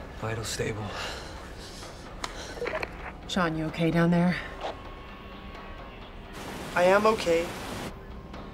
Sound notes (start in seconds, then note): 6.3 water rushing